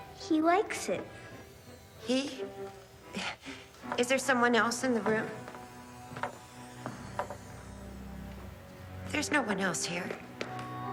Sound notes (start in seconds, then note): 1.4 scoffs; 7.1 menacing orchestral music